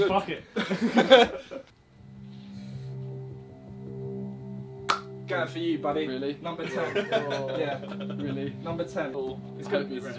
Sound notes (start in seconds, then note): 1.8 tense music; 6.6 Ethan laughing